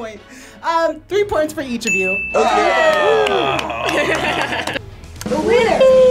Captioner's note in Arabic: الجميع يهتفون